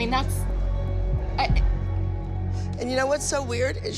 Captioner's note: stammers